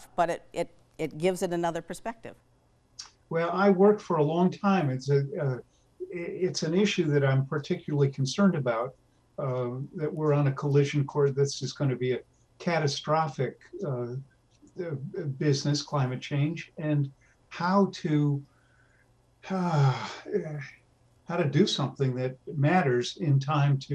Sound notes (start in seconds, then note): 19.4 sighs deeply